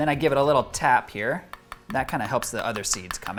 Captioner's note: knife tapping